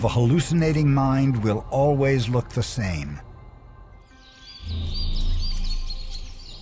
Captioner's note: natures sounds